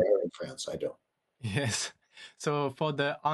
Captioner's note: chuckles